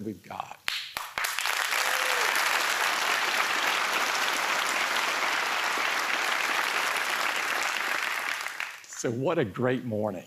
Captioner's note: applause